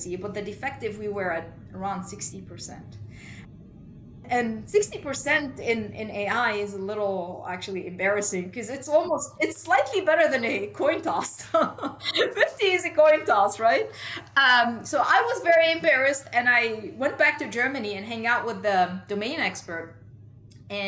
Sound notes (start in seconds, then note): 11.2 laughs